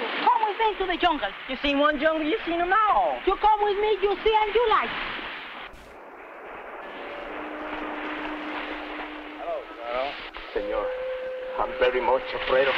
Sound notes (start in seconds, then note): 6.9 soft instrumental music; 10.4 men faintly chattering